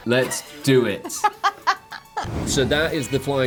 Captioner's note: laughing